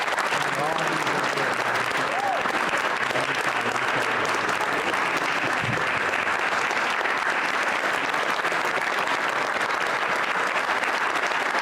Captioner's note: applause